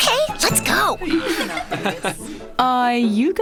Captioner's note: getting off the train sounds